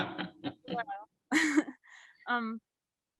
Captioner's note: laughing